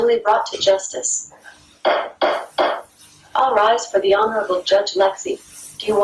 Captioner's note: gavel sound